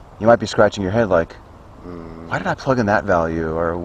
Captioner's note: mmmm